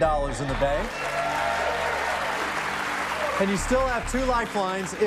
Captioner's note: cheers and applause